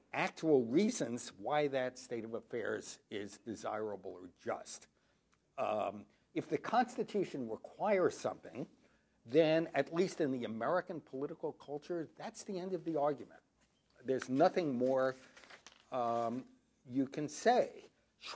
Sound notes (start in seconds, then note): none